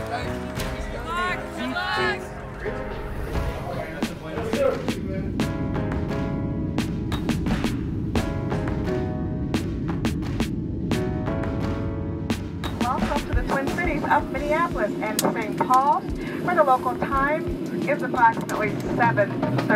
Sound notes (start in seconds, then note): 0.0 crowd